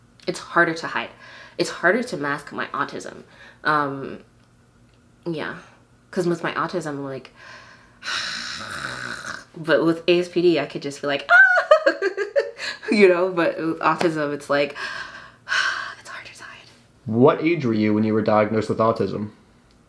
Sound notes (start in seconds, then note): 8.1 groans; 11.3 laughs